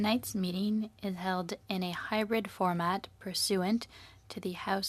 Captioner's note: speaking French